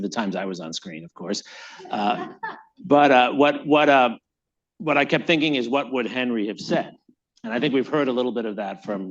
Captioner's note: laughter